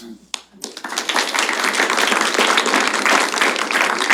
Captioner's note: applause